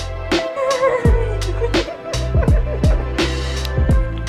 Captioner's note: giggling